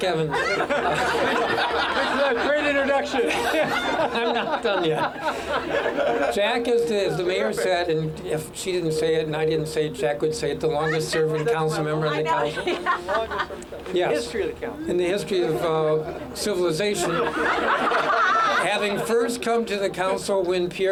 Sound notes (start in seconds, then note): 3.9 laughter